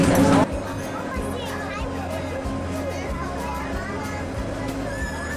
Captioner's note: children murmuring; upbeat instrumental music